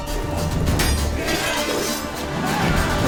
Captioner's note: swords clanging